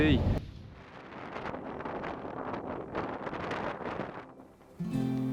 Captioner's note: wind blowing; gentle string music